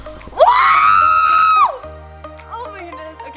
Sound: screams

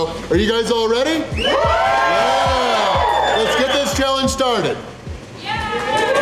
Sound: crowd cheering

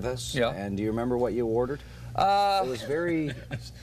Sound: laughter

